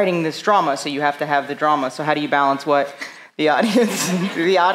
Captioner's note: laughs